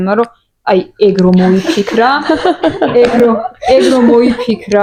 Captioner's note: audience laugh